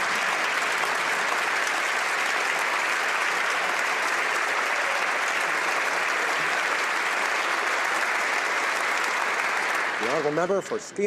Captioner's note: some Applause